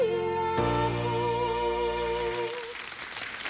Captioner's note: audience applauds